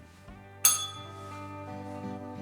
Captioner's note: bell rings